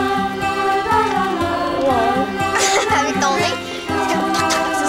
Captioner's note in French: rires